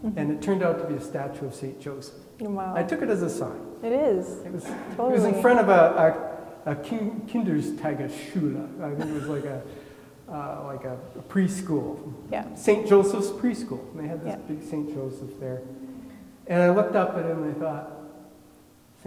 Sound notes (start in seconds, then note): 6.9 speaks in foreign language; 8.9 laughing